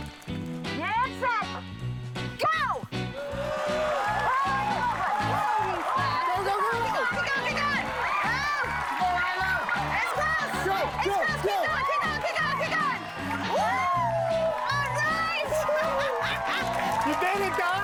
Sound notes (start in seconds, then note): 3.6 applause, cheers